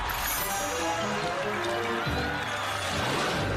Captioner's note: cheering and applause